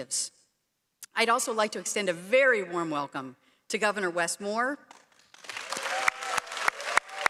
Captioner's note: applause